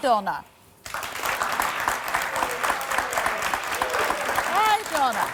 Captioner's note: audience clapping